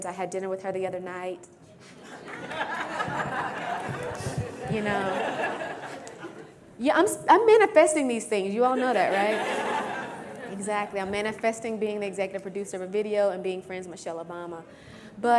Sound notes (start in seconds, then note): 1.9 crowd laughs